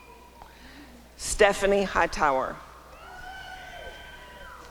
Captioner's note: applause and cheering